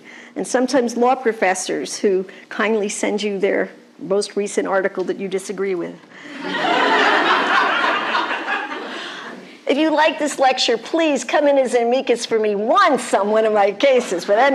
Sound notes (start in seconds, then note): 6.3 laughter